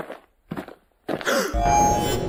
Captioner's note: test tube gasps; suspensful ringing impact